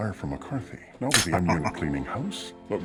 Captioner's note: laughing